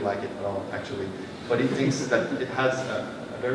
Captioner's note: laughter